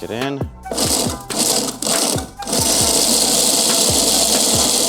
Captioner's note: machine buzzing